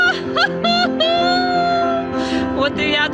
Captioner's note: laughing